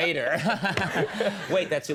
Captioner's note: Conan laughing